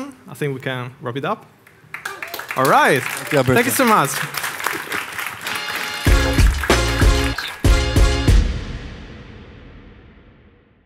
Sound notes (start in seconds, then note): 1.6 crowd applauds; 5.4 upbeat music